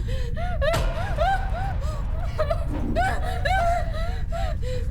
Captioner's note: Abby whimpers and pants